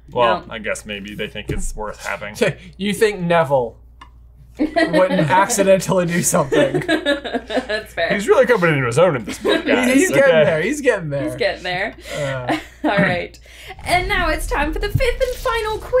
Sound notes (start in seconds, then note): 3.9 chuckles; 6.1 chuckles